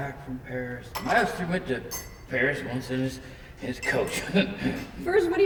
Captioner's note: chuckles